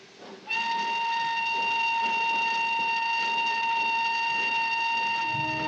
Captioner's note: train whistle blowing